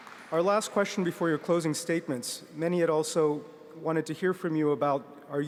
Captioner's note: applause